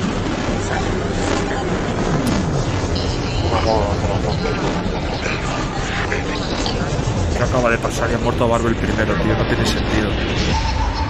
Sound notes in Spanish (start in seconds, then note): 0.0 Distorsiones electrónicas; 3.3 Voz distorsionada